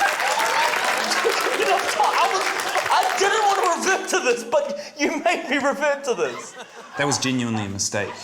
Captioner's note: laughs